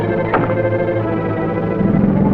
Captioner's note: car door shuts; foreboding music